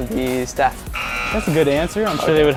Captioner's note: error Buzzer